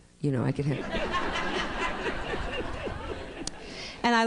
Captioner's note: laughter